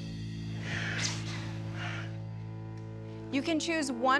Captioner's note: chuckling